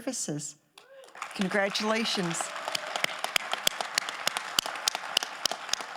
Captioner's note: audience applauding